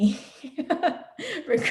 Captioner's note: laughs